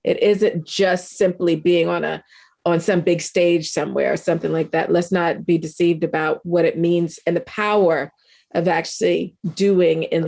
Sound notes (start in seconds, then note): none